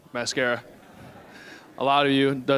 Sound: audience chuckling

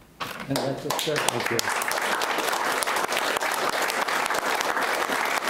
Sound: audience applauds

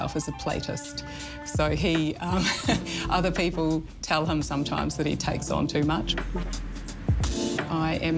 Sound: laughs

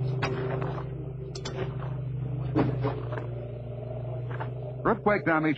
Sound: rumbling noises

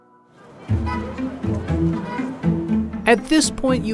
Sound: street noises

